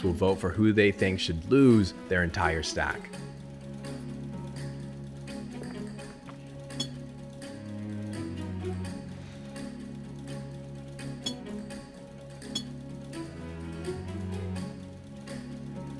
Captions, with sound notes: will vote for who they think should lose their entire stack. (dramatic music) (beeps)